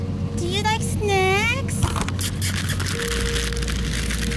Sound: kissing sounds

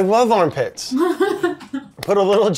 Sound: Elizabeth laughs

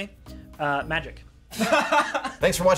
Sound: both laughing

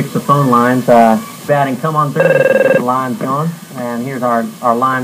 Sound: phone ringing

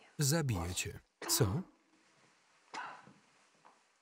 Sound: coughing

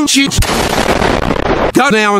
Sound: explosion

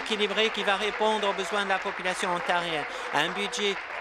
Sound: applause

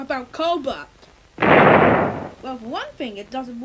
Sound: explosion

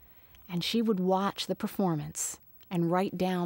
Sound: none

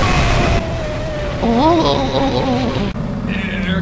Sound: groans in frustration

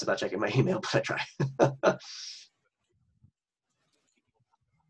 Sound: laughing

